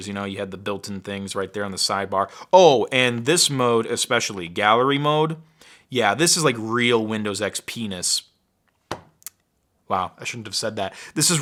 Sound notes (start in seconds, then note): 8.9 hand hits table